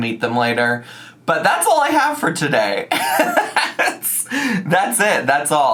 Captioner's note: laughing